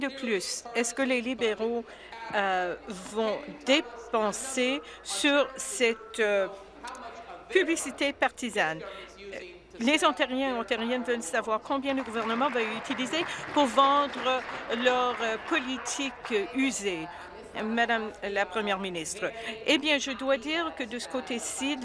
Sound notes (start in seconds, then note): 15.3 applause